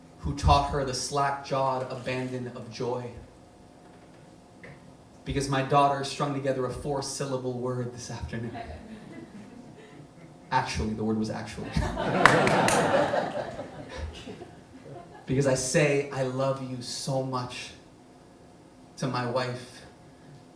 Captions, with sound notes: who taught her the slack-jawed abandon of joy. Because my daughter strung together a four-syllable word this afternoon. Actually, the word was "actually" (audience laughs) (claps) Because I say, "I love you so much," to my wife